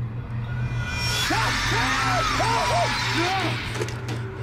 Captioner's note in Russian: внезапный шум и испуганные крики